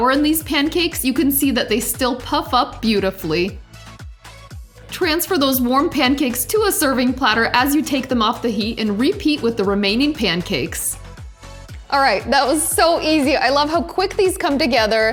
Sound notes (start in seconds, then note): none